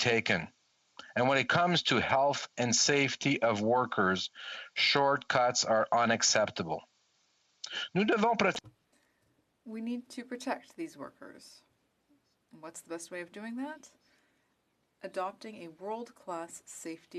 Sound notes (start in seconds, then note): 14.4 speaking French